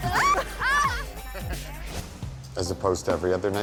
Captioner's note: laughter